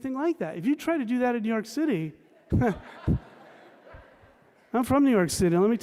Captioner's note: laughter